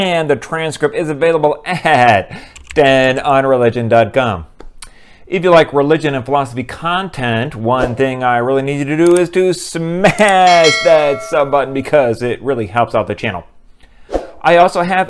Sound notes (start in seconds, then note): 2.5 keyboard typing; 10.2 bell ringing